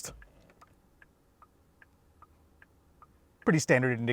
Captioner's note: indicator clicking